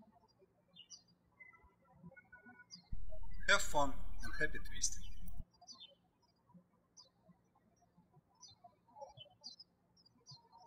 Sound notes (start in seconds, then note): 0.2 birds chirping; 5.8 birds chirping